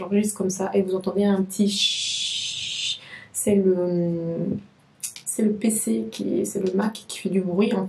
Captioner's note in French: chhhh